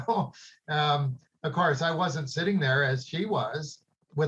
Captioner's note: chuckles